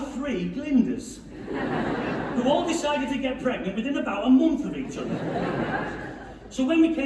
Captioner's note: laughing